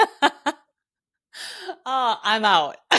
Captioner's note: laughing